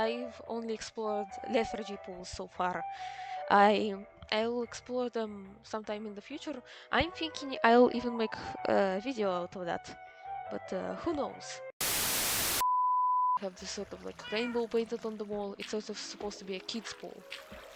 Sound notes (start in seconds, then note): 11.8 static; 12.3 beeeep